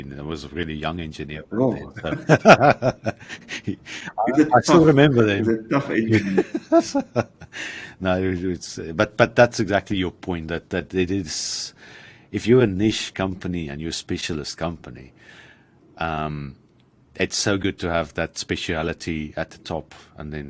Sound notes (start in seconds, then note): 2.0 both laugh; 6.0 laughs